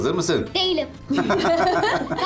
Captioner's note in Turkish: Gülme sesleri